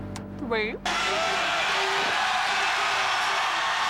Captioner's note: crowd cheering